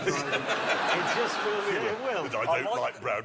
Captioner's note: laughter